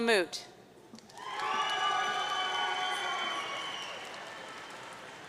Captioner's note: audience cheering